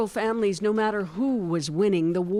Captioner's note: speaking Foreign Language